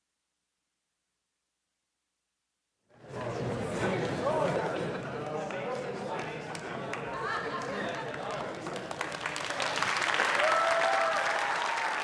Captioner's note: applause